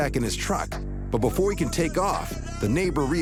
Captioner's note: man yelling